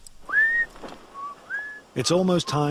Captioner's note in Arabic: صفير إدي